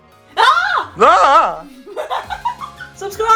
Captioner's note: panicked yelling